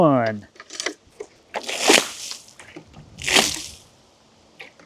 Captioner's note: water splashing